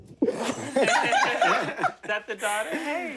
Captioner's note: laughing